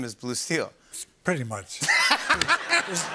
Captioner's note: laughter